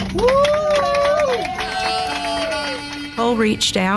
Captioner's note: passengers applauding